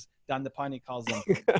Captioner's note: laughs